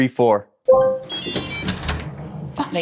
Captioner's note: unlocking sounds